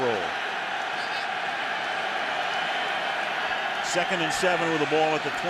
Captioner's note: cheering